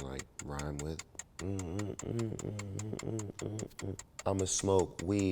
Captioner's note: humming